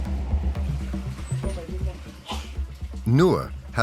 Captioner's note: people chattering